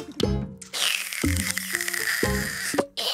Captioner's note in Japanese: ジュースを飲む音